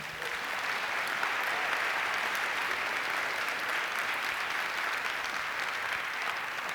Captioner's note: applause